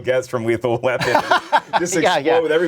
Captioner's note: laughing